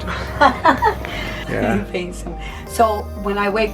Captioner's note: laughing